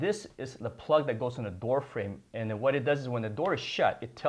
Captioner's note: none